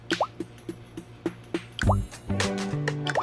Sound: none

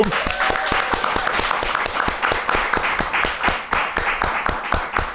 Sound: audience applauding

